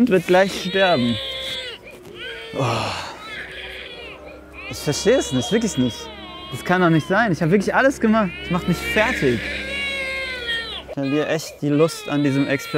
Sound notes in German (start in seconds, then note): 0.1 Baby schreit; 2.5 Er stöhnt; 11.6 Baby schreit